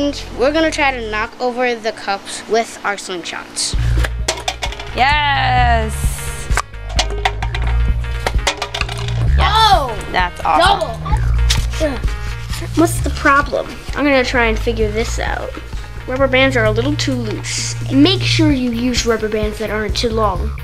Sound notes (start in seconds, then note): 6.5 pop; 8.2 pop; 11.6 grunts